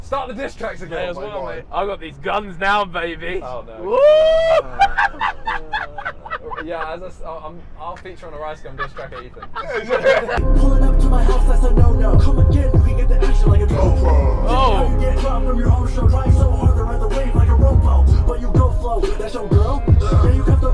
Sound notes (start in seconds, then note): 4.7 cackling